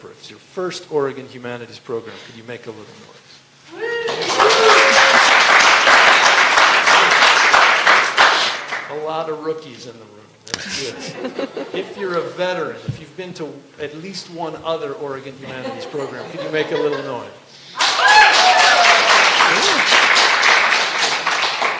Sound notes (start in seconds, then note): 3.8 vigorous applause and some cheering; 10.6 laughter; 17.7 cheers and vigorous applause